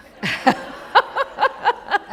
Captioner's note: laughter